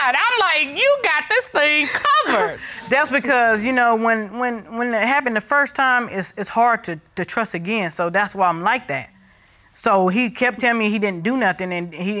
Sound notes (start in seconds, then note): 4.1 stammers